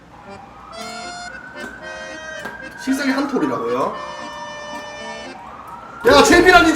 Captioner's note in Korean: 웨에에에엥~